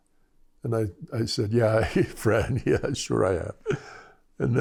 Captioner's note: laughter